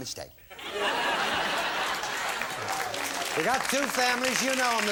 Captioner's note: applause